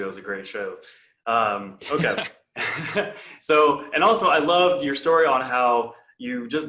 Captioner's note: chuckles